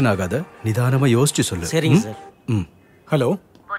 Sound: phone rings

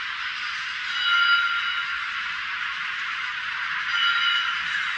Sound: chime 7; chime 8

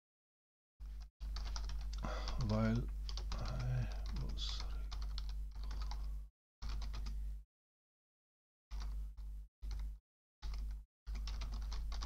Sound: typing

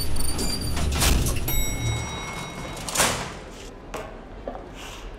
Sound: bell tinkles

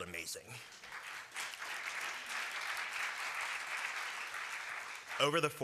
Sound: applause

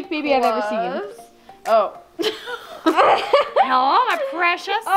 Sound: laughs

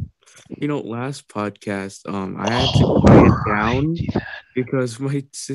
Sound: clears Throat

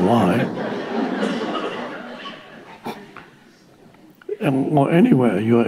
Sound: audience laughing

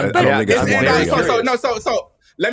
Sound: overlapping chatter

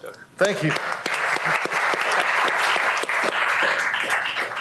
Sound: applause

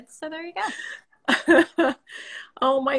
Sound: laughing

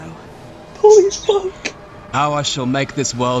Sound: birb chirps

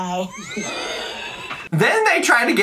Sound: all laugh

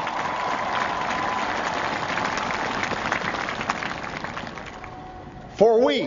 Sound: applause

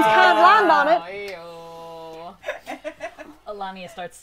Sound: chorus of 'Ayyyyyyy's

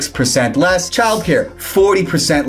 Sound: graphics swish

